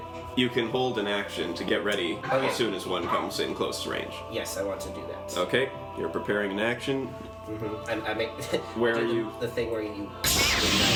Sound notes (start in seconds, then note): 10.2 lightsaber sound